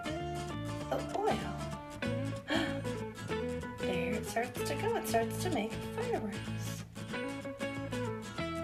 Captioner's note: gasp